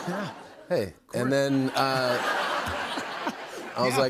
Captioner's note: laughter